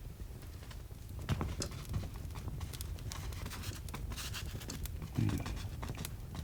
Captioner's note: fire crackling